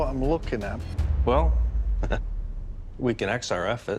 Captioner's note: chuckle